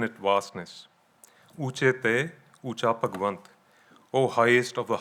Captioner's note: speaking in foreign language